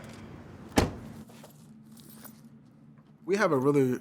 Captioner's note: door thuds